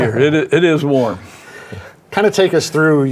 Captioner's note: group laughing